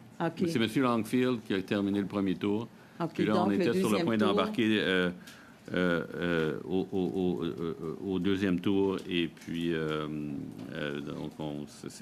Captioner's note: speaking French